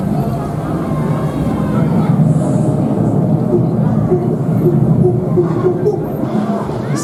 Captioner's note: tropical thunderstorm rainforest sfx